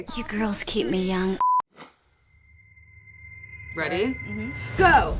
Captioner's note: beeping